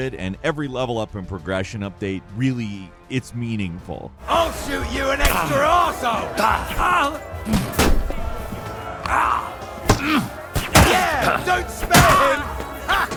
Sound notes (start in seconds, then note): 6.5 blows thudding; 6.5 fighters grunting